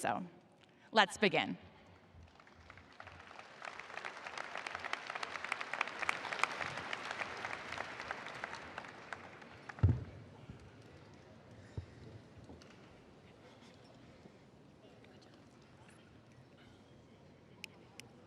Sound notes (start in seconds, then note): 6.5 applause